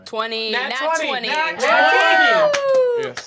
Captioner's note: cheering